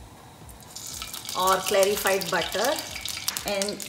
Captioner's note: pan sizzles